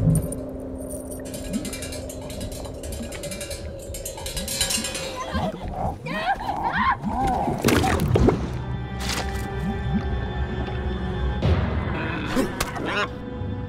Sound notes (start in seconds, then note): 0.9 metal clanking; 5.3 lamb screaming; 6.0 creature squealing